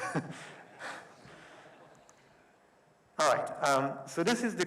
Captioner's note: audience laughing